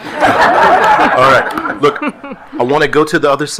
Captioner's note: attendees laughing